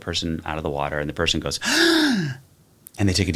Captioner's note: gasps